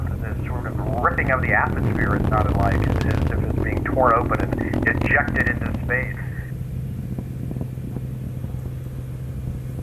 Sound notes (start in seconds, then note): 6.4 engine rumbling